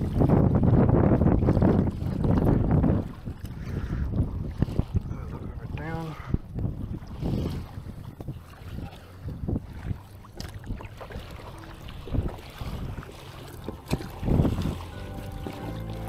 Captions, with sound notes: I'm gonna look over down. (water splashing) (upbeat music)